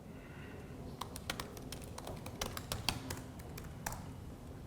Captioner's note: keyboard clicking